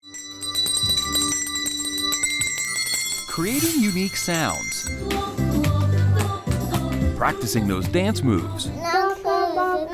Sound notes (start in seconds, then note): 0.0 bells ringing; 5.0 singing in foreign language